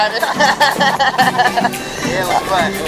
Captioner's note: all laughing